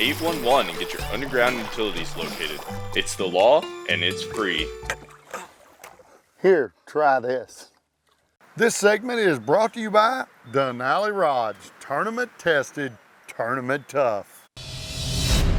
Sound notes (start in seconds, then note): 4.4 tired grunting